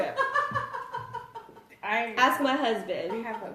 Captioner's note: laughs